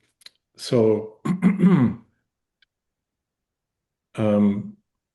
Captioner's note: clears Throat